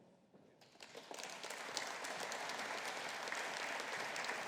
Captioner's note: audience applauding